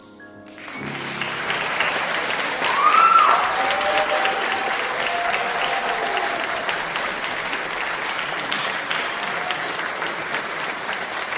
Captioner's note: applause